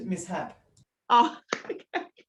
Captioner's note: laughing